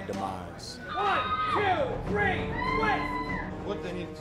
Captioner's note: woman screaming